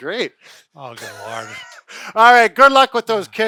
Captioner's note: laughing